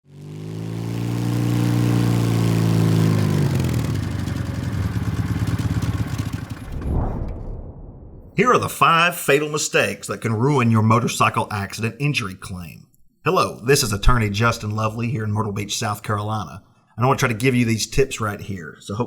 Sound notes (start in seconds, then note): 0.1 motorcycle engine rumbling; 6.5 air whooshing